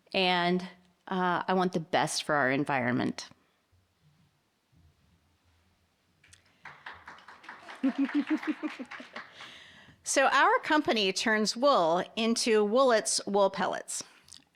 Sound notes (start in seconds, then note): 6.3 audience applauding; 7.8 chuckles